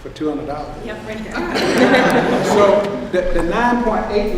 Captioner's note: laughs